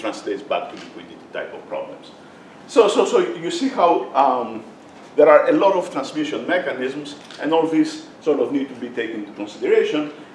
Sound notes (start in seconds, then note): none